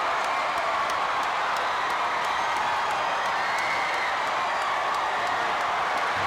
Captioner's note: audience cheering continues